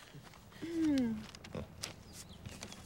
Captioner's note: Eliza clears throat